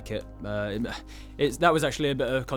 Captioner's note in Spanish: suspiro